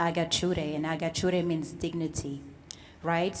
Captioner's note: foreign language